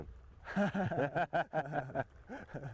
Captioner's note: laughter